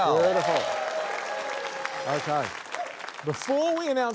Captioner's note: cheering, applause